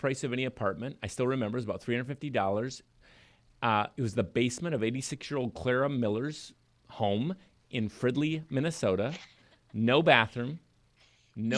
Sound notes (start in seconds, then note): 9.1 laughs